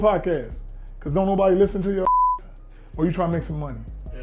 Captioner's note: beep